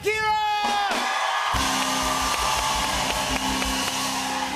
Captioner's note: cheers and applause